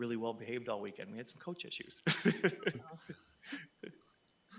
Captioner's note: chuckles